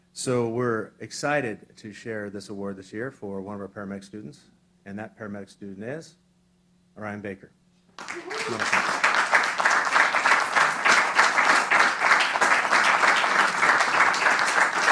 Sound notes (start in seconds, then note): 7.9 applause